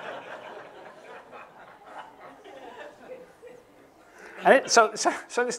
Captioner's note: laughter; laughing